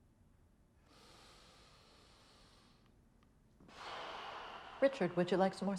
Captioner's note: Richard breathing heavily